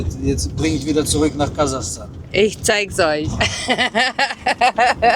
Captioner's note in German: gelächter